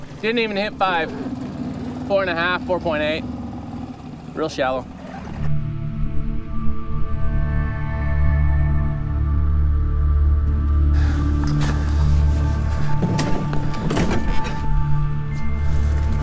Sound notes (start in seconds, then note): 5.6 somber music; 11.2 footsteps thudding; 13.3 parts clanging